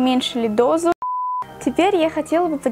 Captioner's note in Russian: пип